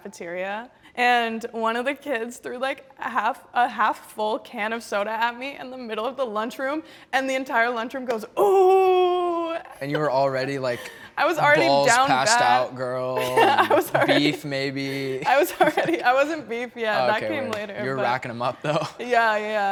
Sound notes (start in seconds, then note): 14.8 laughs